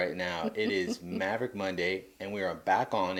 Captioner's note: laughing